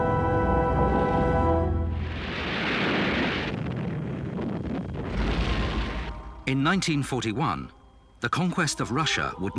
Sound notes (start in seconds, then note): 2.0 bombs blasting